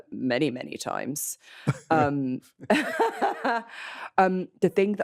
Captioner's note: both laugh